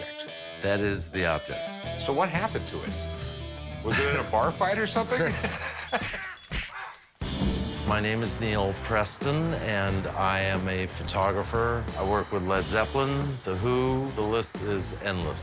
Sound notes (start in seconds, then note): 4.8 laughing; 5.8 fight sounds